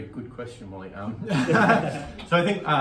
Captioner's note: laughing